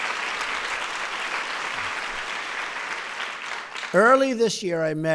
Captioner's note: applause